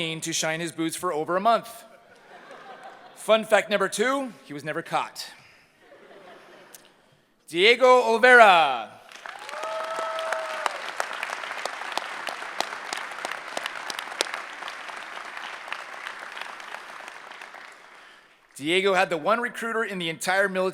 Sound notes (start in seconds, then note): 9.2 cheering